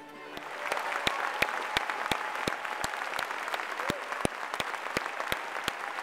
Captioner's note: applause